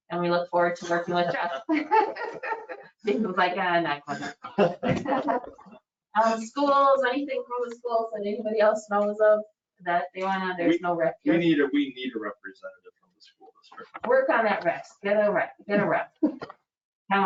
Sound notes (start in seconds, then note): 0.8 both laughing